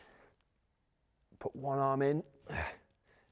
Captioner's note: grunts